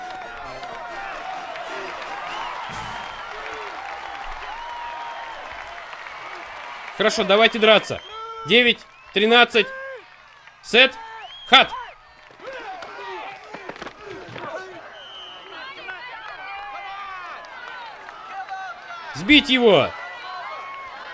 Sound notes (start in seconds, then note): 0.1 crowd cheering; 13.4 grunting; 14.1 whistle blows; 16.4 crowd yelling